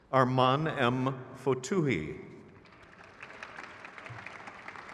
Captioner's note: crowd claps